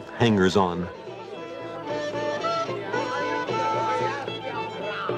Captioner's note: speaking in foreign language